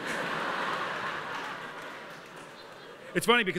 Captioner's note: laughter